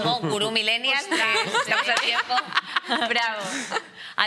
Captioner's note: laughter